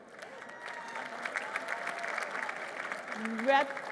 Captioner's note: applause